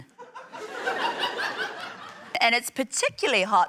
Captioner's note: laughter